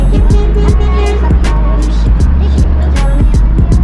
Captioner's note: cars honking